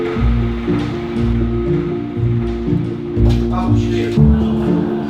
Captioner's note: office noise